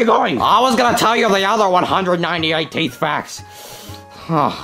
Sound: breathing intensely

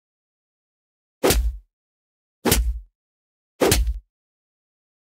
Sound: sound of punches

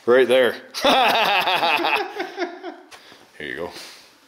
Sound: laughs

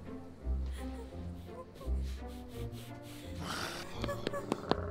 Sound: girl cries

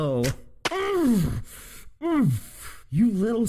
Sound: grunts in pain

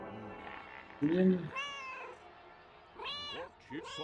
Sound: Hodge meowing

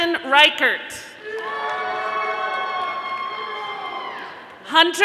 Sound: audience applauding

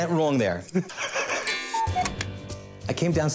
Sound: Corey laughs; ticking, cuckoo bird chirps

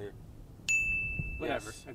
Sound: bell dings

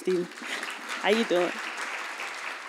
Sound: audience applauds

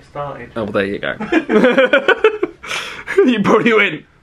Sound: laughs

